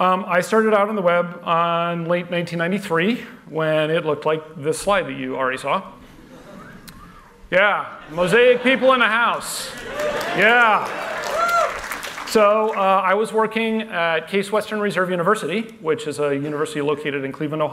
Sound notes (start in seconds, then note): 6.6 whistling